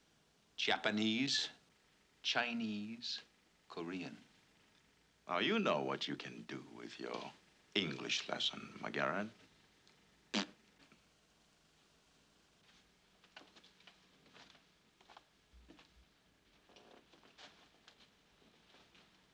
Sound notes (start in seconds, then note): 10.3 blows raspberry